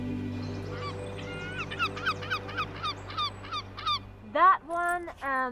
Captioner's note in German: Vögel zwitschern